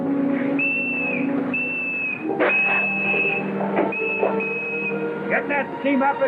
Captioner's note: whistle